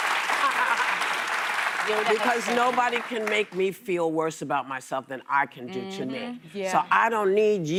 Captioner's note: applause